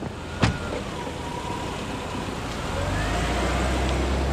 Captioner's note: ambulance